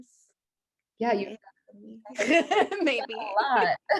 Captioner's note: both laughing